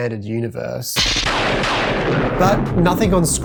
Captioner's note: lightning Sound